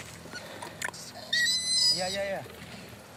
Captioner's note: orangutan gıcırdıyor